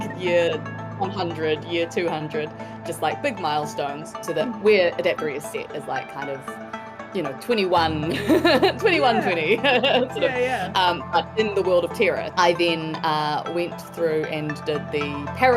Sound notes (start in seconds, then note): 8.0 chuckles; 8.1 laughs